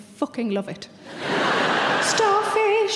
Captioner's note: audience laughs